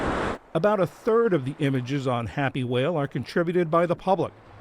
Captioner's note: voice-over